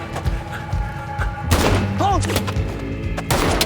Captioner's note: pistol booming